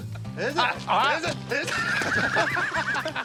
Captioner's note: laughs